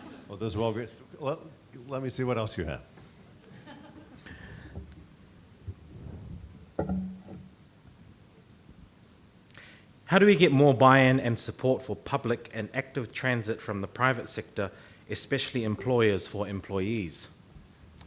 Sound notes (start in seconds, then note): 0.0 audience laughing; 3.6 woman chuckling